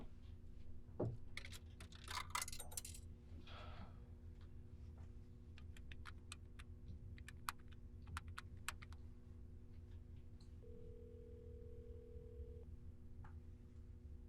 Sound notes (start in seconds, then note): 2.0 coins dropped in payphone; 5.3 buttons dialing; 10.6 phone ringing